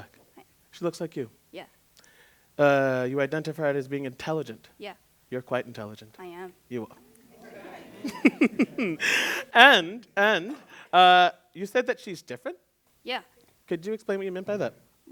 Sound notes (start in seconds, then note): 7.3 laughter; 8.0 laughs